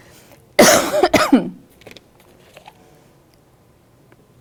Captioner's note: coughs